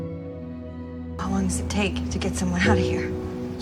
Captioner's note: voiceover